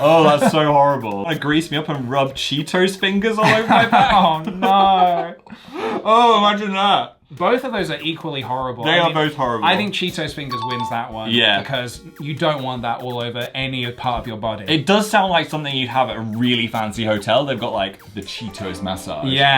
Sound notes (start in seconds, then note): 10.4 bell chimes